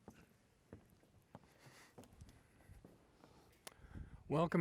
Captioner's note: footsteps falling